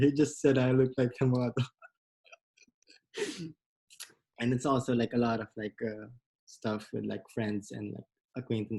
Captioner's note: laughs